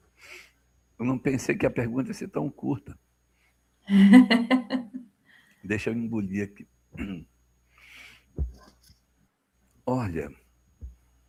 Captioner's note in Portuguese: limpando a garganta; risadas